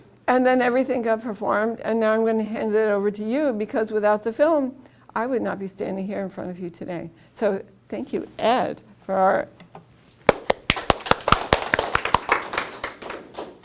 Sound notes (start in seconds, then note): 10.3 applause